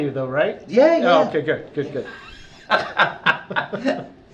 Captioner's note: laughter